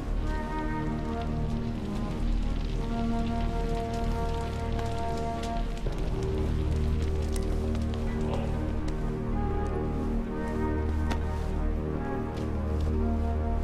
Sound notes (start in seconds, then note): 0.8 fire crackling